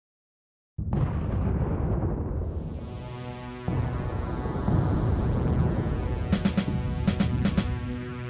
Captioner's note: distant cannons